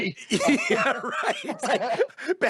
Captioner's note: laughs